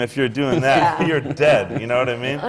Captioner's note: laughter from the panel